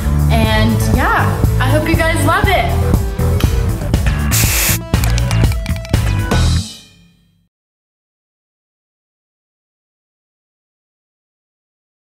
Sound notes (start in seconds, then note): 4.0 upbeat music; 4.3 blowing kiss